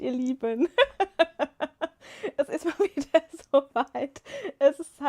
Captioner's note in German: gelächter